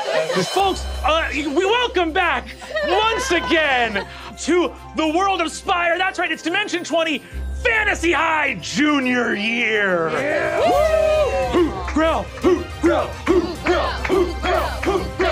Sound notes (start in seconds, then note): 10.0 players cheering